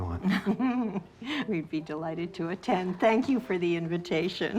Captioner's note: laughing